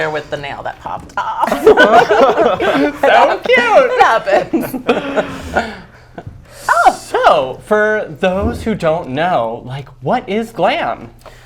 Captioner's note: laughs